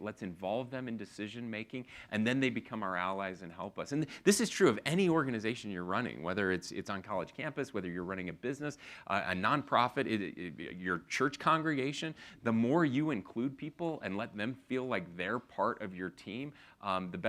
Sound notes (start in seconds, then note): none